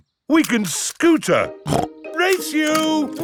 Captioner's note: snorts